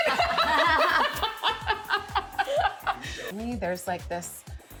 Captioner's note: laughing